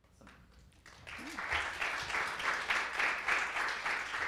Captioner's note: audience applause